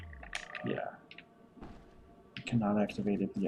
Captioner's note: none